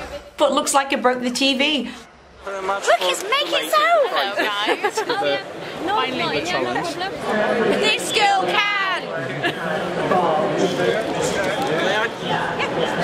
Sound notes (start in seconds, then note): 4.0 laughs